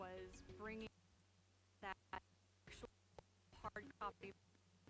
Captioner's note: stuttering audio